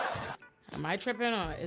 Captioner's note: audience laughing